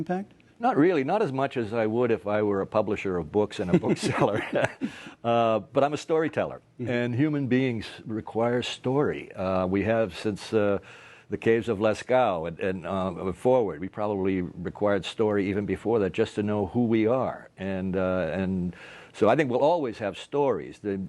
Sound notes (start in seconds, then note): 3.6 laughter